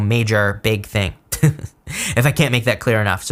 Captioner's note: laughs